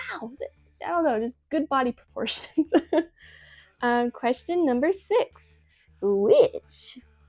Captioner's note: laughs